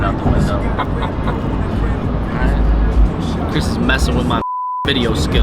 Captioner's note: laughing; beep